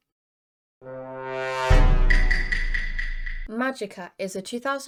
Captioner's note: Among us sound effect